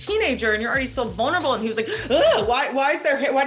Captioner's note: gasps